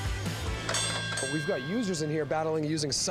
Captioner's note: bell rings